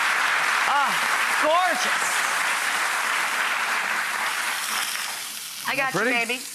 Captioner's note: audience applauds; applause continues